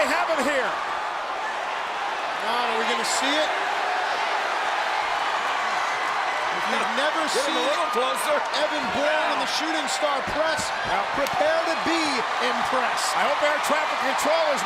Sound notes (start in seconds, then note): 1.6 crowd cheering; 3.9 crowd cheering